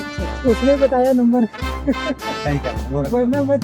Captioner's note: laugh